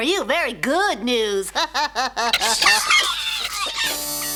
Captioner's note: laughs